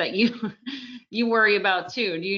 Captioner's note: laughs softly